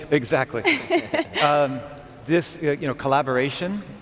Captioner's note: laughing